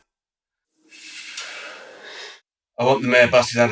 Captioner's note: hisses